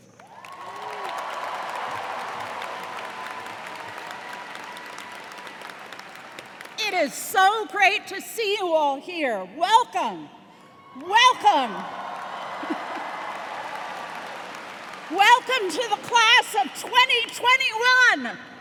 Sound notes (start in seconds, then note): 0.0 cheers and applause; 10.6 cheers and applause; 12.6 chuckles